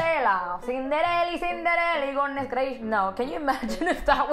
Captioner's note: in heavy cuban accent